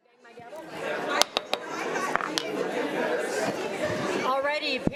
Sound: audience chattering; gavel knocking

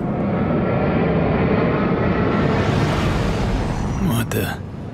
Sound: craft roaring overhead

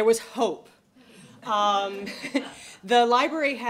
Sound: laughter

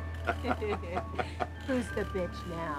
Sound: laughing

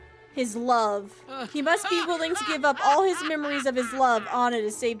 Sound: Ursula Laughs

